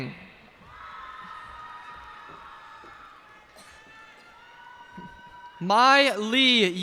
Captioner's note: cheers and applause